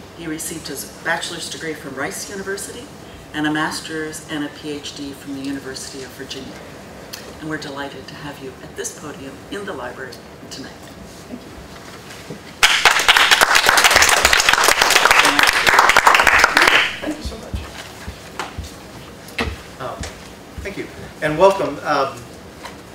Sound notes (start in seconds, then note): 12.6 applause